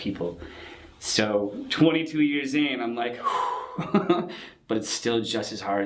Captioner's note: exhales a sigh of relief